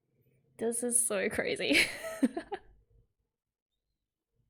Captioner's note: laughs